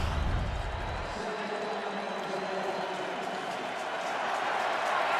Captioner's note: announcer on pa; crowd cheering